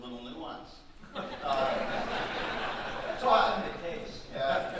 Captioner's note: audience laughing